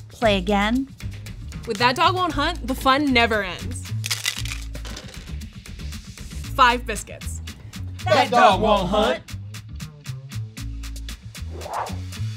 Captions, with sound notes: - Play again? - With "That Dog Won't Hunt," the fun never ends. (clattering) Five biscuits. - [In Unison] That dog won't hunt! (upbeat music)